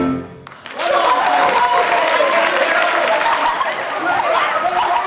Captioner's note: audience applauds